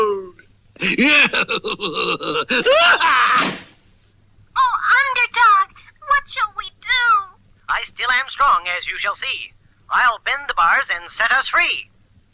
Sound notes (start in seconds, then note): 0.8 Simon Bar Sinister Laughs & Closes the Door